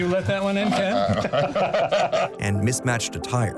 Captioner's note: laughter